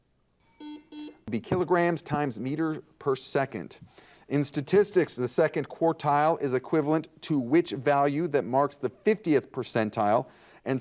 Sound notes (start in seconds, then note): 0.4 bell rings; 0.4 buzzer dings